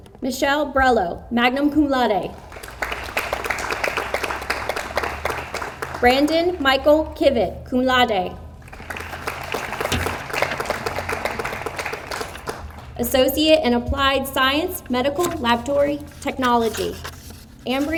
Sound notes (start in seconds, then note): 2.4 audience applauds; 8.6 audience applauds